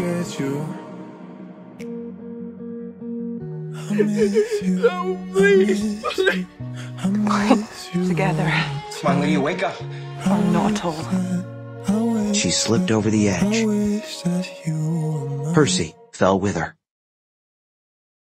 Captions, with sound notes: (sobbing) No please! please.. Goodbye Together.. Come on Lydia wake up! ..or not at all. She slipped over the edge.. ...Percy fell with her